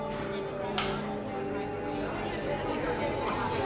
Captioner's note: indistinct chatter